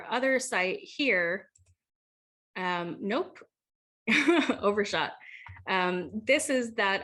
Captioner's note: laugh